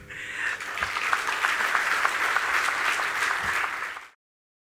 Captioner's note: applause